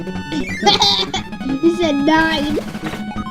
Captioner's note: laughs